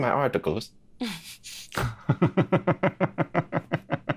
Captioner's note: laughs